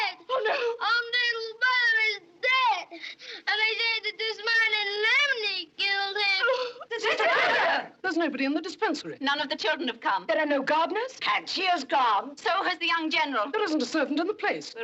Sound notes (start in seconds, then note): 6.4 gasps